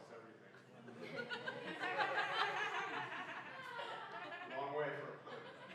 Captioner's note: laughing